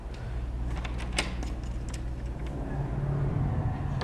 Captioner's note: door opens